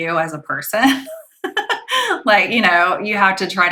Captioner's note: laughing